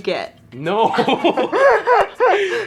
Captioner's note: laughs